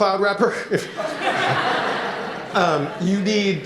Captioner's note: laughter